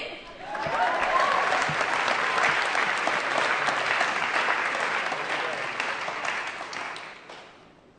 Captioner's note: applause